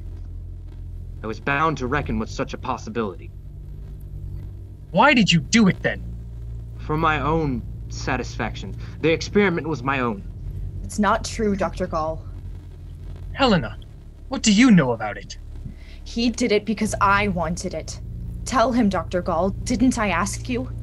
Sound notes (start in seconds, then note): 6.6 unconvincing